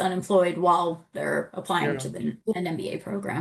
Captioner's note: faintly speaking